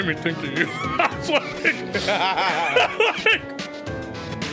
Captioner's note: laughs